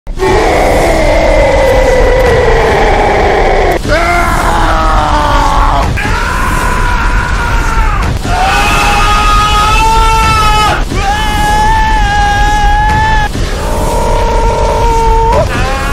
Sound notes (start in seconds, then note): 0.2 Bowser Roar; 3.9 heavy Screaming; 5.9 Werehog Scream; 13.4 Patrick Screaming; 15.6 Rex Scream